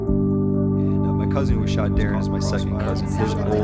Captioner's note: voices echoing